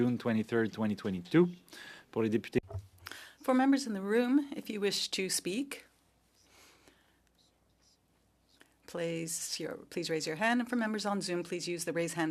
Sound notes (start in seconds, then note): 7.6 speaking French